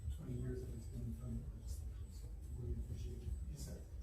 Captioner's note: speaking away from mic